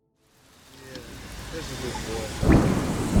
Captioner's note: rain pattering; thunder booming